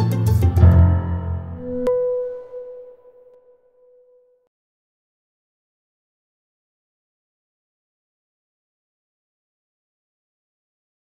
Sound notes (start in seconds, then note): 0.8 chiming